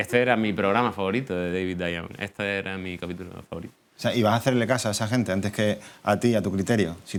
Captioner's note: none